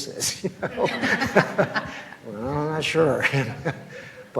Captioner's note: laughs; laughs